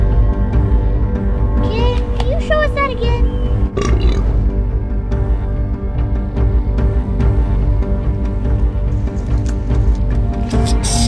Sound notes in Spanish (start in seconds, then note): 3.7 eructa